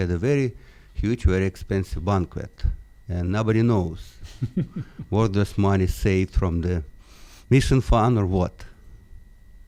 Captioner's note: laughs